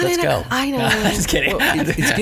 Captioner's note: laughs